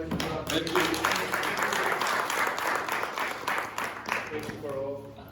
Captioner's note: applause